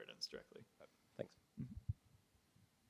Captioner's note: voiceover